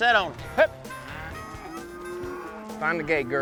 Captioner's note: cattle lowing